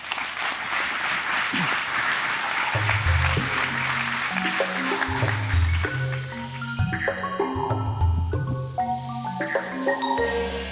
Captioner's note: applause